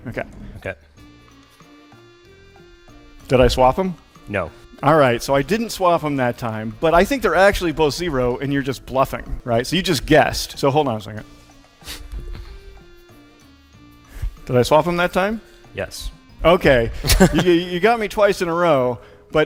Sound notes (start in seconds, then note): 1.2 playful music; 11.8 sniffs; 12.7 playful music continues